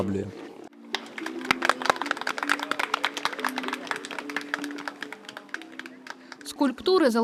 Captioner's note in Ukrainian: люди аплодують